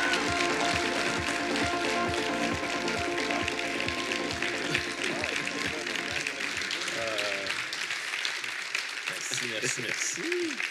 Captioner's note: applause